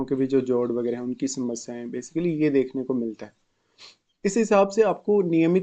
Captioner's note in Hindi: नाक से की जाने वाली आवाज़